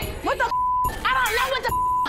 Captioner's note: beep